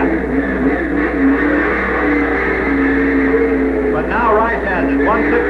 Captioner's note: engine roaring